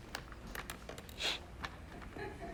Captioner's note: sniffs